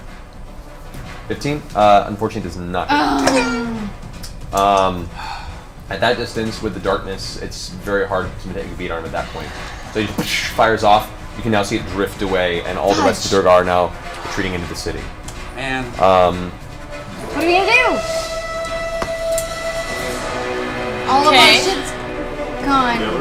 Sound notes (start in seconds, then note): 4.0 ricochet noise; 10.2 gunshot